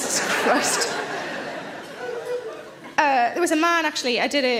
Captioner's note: audience laughs